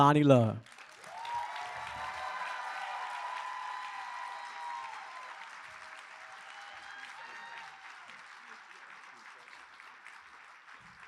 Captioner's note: applause